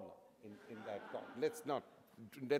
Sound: audience laughter

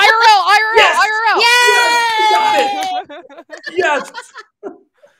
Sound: all laughing; clapping

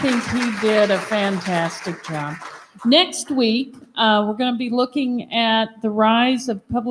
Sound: applause

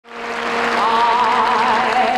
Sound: audience applauding

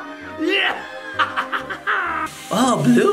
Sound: man cackles

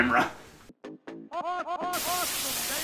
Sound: Dick Vitale's "Awesome, Baby!" College Hoops sounds; Static

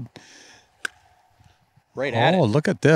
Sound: golf club whack

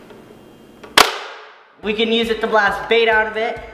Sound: gun clicks

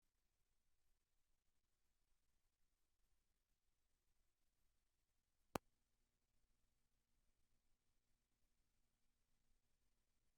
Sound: silence

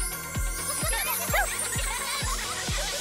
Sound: laughing

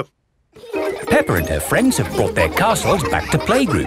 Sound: children laughing

